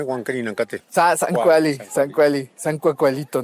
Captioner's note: speaking Nahuatl